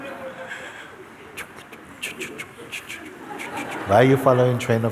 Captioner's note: laughter